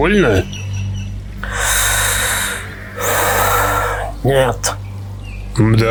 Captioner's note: sigh